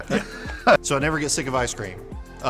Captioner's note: laugh